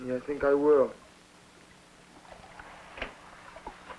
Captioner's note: water sloshing